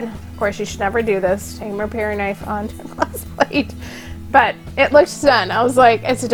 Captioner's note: laughing